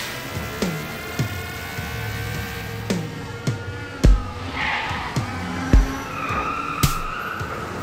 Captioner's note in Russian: шум транспорта